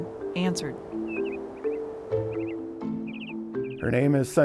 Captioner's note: birds chirping